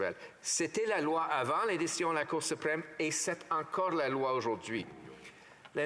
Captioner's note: speaking French